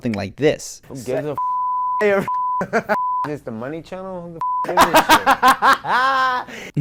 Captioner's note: Nate cursing while Conor laughs